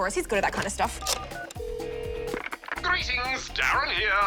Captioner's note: phone rings